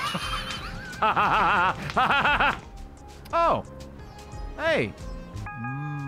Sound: laughs

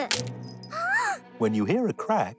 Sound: giggles; cracking; gasps

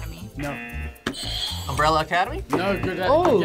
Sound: buzzer rings; buzzer

